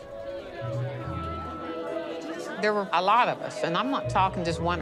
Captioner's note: group conversing